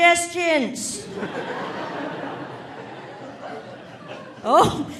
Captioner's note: audience laughing